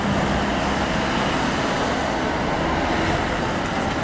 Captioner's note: car traffic sounds